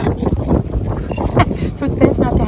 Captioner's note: chuckles